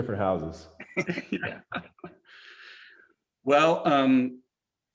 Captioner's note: people laughing